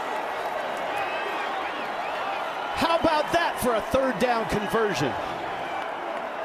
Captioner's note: cheers and applause